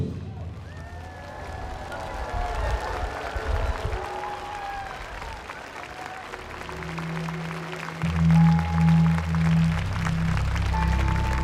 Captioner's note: applause